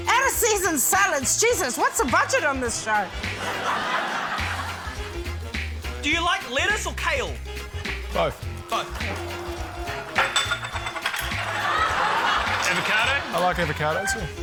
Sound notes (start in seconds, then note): 3.0 laughter; 11.3 laughter